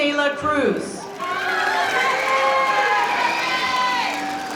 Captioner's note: crowd cheering; audience cheering